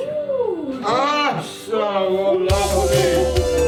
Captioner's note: speaking Georgian